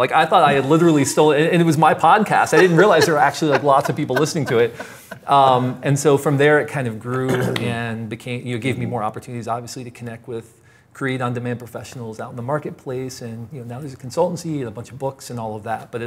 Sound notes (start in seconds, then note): 2.2 laughs